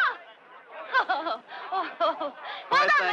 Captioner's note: woman chuckles